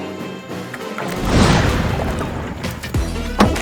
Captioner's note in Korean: 물이 쏟아져 나오는 소리